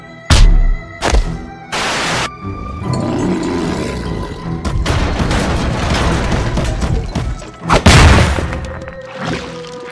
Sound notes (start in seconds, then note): 0.9 plop on the ground